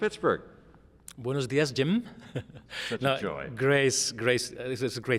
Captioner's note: chuckles